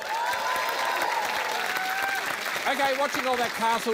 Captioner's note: cheering, applause